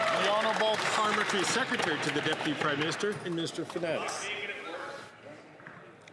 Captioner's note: some Applause